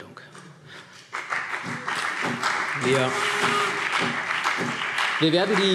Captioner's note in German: Beifall CDU und BÜNDNIS 90/DIE GRÜNEN